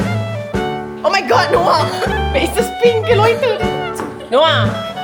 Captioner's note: speaking German